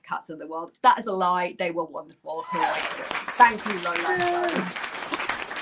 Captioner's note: applause